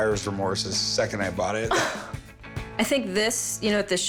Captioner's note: laughs